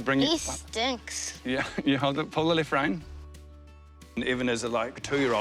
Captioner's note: chuckles